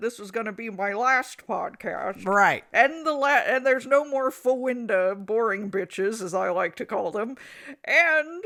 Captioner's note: stammers